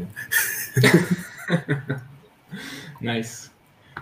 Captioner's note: laugh